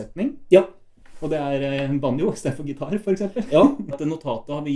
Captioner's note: laughs